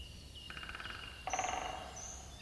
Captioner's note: woodpeckers pecking